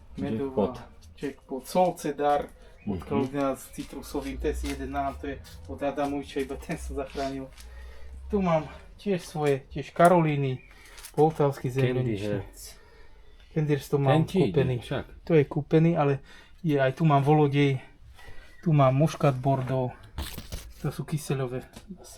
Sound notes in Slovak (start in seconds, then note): 7.6 smrkanie